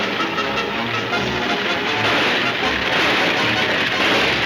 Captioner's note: gunshots banging